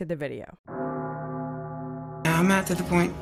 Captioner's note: bell tolls